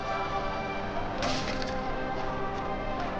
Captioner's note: wood tearing